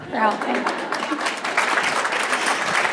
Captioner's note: applause